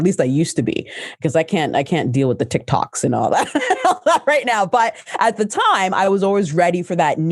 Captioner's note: laughs